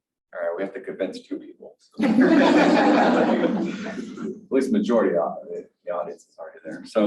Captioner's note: laughter from the panel and audience